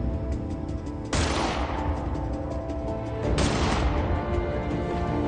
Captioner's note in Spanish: Disparo